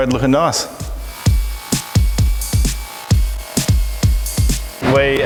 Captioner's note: grinder whirring